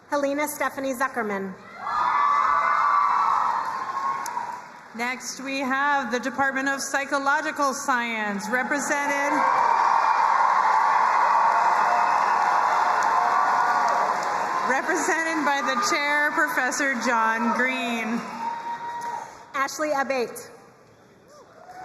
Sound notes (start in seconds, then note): 1.9 crowd cheering and applauding; 9.3 crowd cheering and applauding; 21.5 crowd cheering and applauding